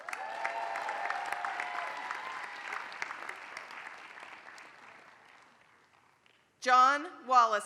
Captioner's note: applause